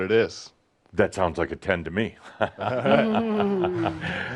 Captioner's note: they chuckle